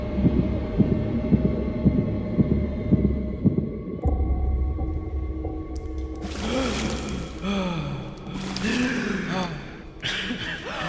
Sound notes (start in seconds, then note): 0.0 hearbeats quicken; 7.4 gasp; 10.6 gasp